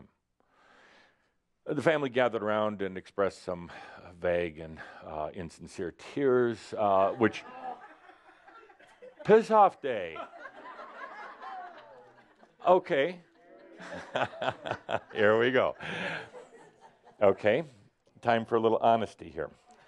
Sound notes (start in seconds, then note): 13.2 more chuckles; 13.7 Adamus chuckles